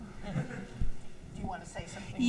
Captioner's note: laughs